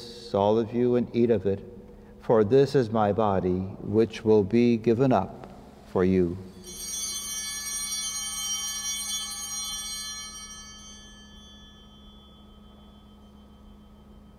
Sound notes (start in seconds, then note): 6.5 bells ringing